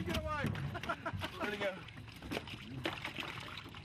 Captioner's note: laughter